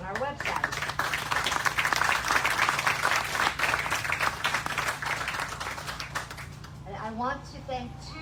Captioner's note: applause